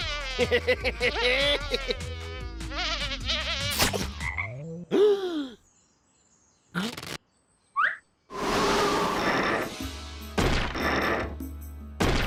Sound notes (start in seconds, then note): 0.4 laughs; 3.7 frog ribbits; 5.0 gasps